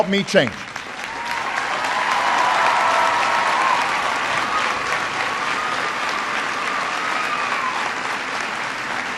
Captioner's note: applause